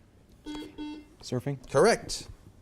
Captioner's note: buzzer beeps